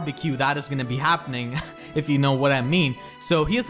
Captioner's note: laughs